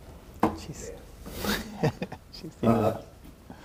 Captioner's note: laughing